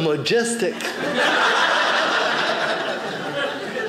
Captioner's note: audience laughing